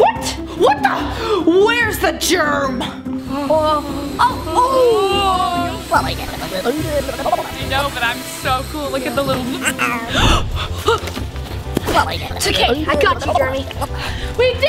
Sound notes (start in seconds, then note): 5.1 giggles; 11.2 gasps